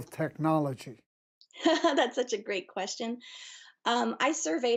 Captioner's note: chuckles